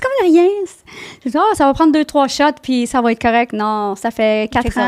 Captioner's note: in french